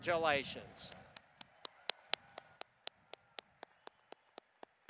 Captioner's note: audience applauding